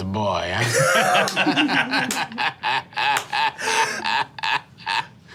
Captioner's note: group laughing